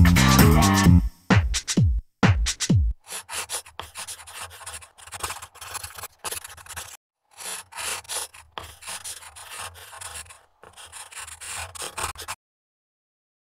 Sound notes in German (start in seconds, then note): 3.1 Bleistiftschaben